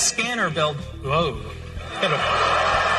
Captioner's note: crowd gasping; laughing and applause